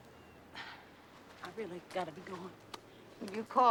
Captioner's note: sighs